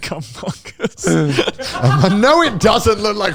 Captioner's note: all laughing